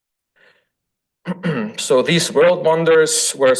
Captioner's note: throat clears